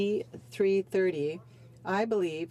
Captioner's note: speaking French